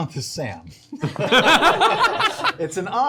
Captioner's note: laughter